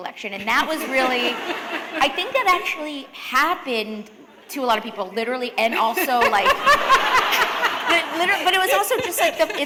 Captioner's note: laughter